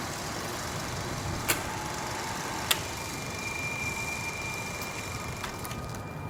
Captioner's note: projector rattling; projector clicking